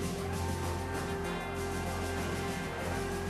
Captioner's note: cheering